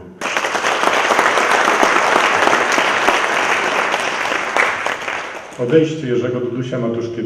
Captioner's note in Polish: aplauz